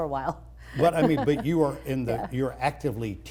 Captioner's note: laughs